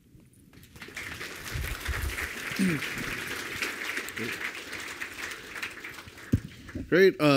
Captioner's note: applause